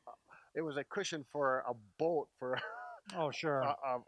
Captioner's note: laughs